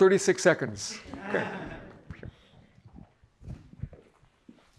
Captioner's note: audience laughing